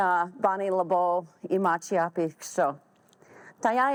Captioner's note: speaking Lakota